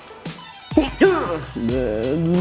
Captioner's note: exhales